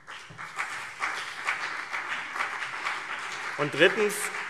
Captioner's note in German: Beifall CDU und BÜNDNIS 90/DIE GRÜNEN